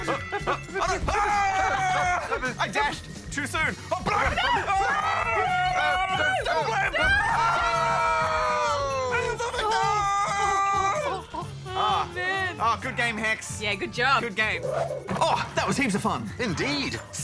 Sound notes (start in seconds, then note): 0.1 both grunt; 5.5 grunts